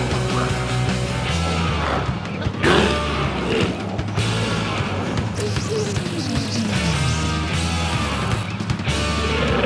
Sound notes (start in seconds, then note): 0.0 glowzies growling; 0.0 energetic music continues